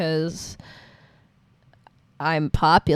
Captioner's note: sharp inhale